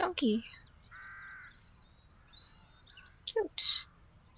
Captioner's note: birds tweeting